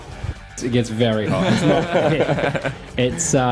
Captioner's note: laughter